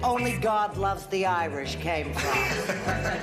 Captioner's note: laughter